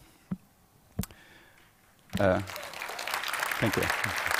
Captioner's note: applause